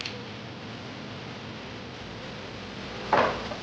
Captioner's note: glasses clink